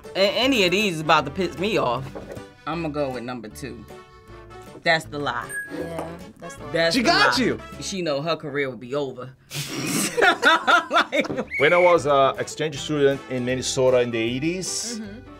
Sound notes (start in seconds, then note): 9.6 laughs